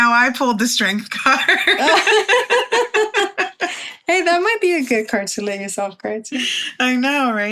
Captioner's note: laughs